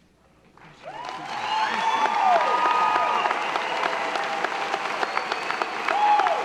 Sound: audience applauding; audience cheering

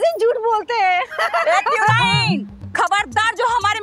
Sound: laughing

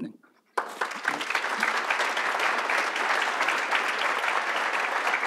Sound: audience applauds

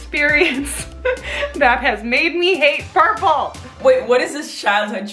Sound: laughs

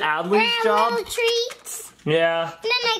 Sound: package crinkles

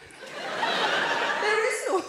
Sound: audience laughing

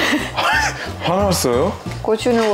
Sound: laughing

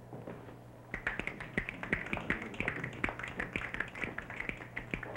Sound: snapping fingers

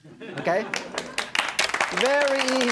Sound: audience applauding

